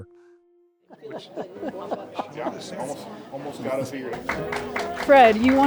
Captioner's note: ambient room chatter; claps